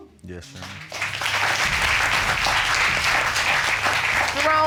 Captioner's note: applause